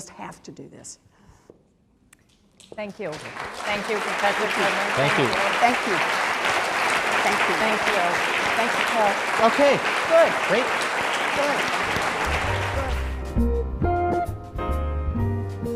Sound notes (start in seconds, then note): 3.9 applause; 13.1 smooth jazz